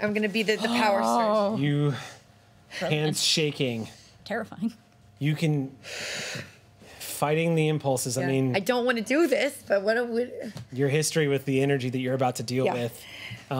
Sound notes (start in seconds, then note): none